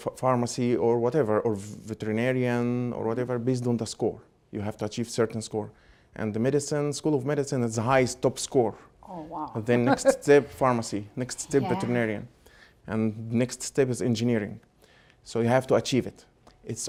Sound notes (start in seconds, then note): 9.1 laughing